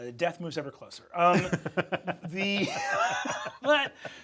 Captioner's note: Sam laughing; Brennan laughing